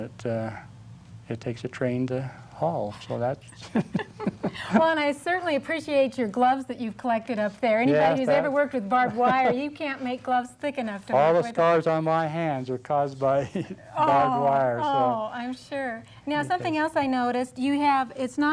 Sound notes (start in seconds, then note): 3.6 laugh; 3.6 laughs